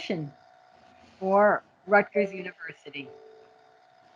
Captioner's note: windows notification chime